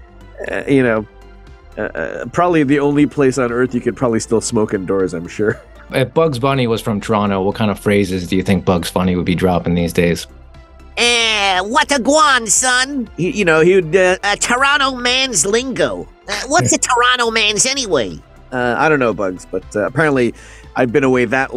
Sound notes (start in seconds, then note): 10.9 Bugs Bunny voice; 14.2 Bugs Bunny voice